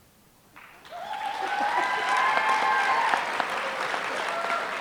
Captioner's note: applause